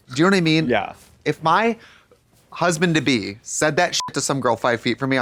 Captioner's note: beep